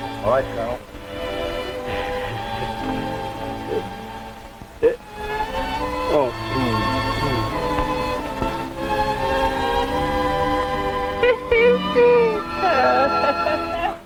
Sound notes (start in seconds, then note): 11.0 Ben laughing